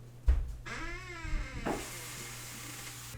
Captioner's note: door creaks